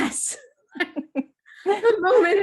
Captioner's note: laughs